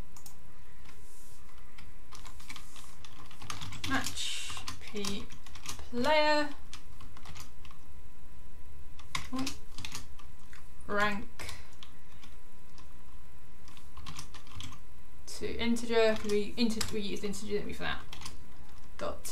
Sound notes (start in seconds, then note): 3.0 keyboard clicking